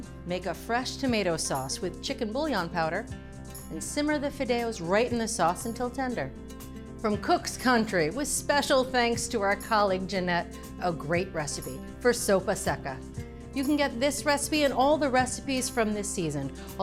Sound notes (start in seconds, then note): none